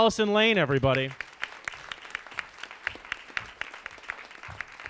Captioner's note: audience applauds